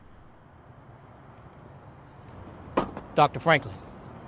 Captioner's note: insects continue chirping